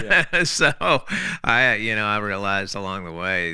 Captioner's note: laughs